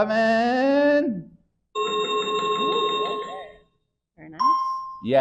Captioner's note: chiming sound effect